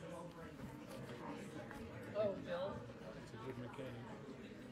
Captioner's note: people chattering